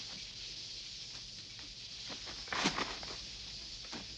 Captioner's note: insects chirping